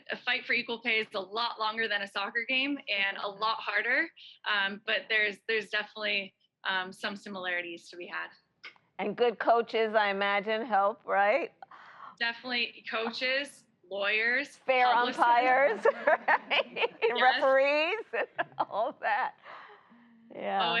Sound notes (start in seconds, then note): 15.0 laughs